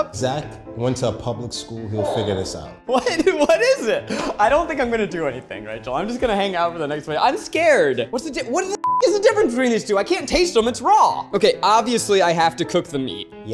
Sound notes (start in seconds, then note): 8.8 beep